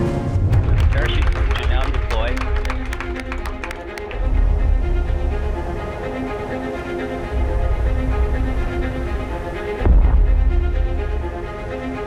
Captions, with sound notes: Parachute has now deployed. [clapping] [wind] [thud]